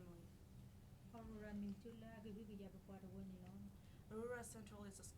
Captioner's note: speaking in foreign language